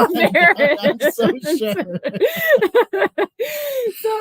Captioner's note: laughing